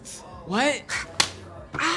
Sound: slap

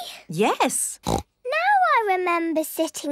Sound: snorts

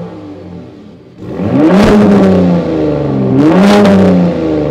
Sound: exhaust roaring

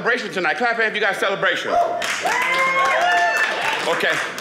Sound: audience applauding

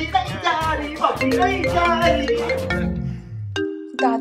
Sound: phone ringing

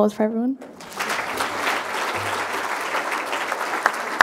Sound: crowd applauding

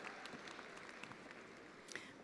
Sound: attendees applauding

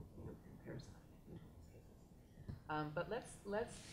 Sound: faintly speaking

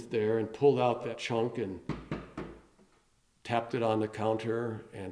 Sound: knocks

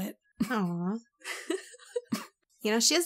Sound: laughs

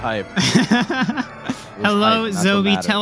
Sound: laughter

